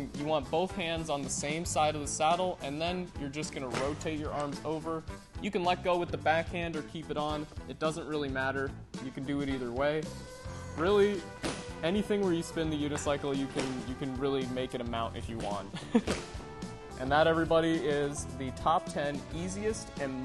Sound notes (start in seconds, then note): 15.7 laughs